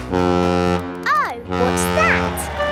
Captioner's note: horn bellowing